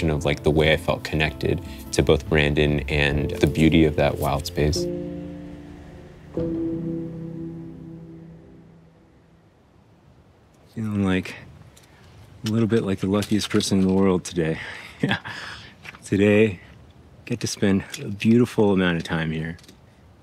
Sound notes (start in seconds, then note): 7.2 gentle music; 7.2 water rushing